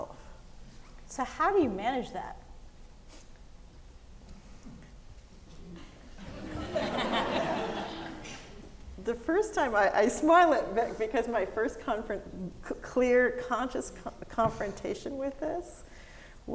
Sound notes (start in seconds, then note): 6.1 audience laughing